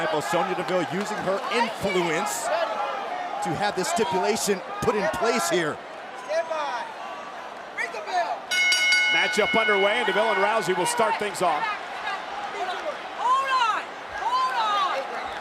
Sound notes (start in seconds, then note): 8.5 bell dinging